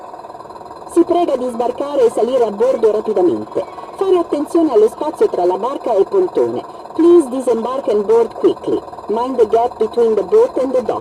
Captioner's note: "Official announcements" use AI voices